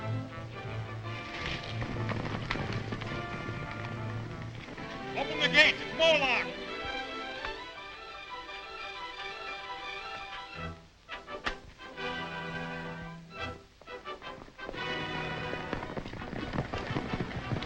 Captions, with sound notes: (horses galloping) - Open the gates! It's Moloch! (dramatic music continues) (horses galloping)